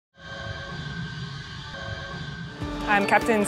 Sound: jet noise

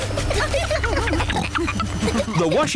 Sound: giggling; rumbling

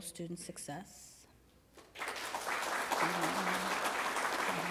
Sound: applause

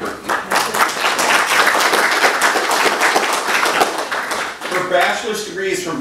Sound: applause

